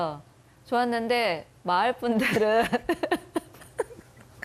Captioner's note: chuckles